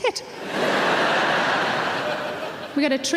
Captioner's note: audience laughs